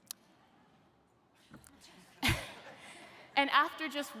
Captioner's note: chuckles; audience laughs